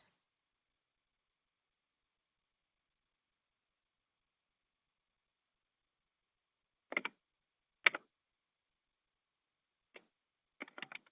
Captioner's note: typing